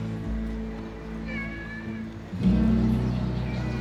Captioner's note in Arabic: موسيقى مشرقة; مواء الزنجبيل